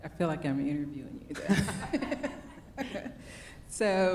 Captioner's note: both laughing